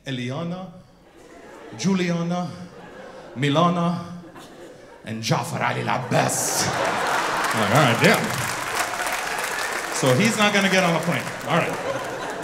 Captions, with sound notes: Eliana, Juliana, Milana, and Javrali Jabez. (audience laughing) All right, damn. So he's not gonna get on a plane. All right.